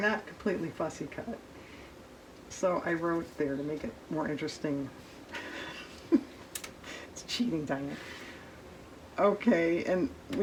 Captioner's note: laughs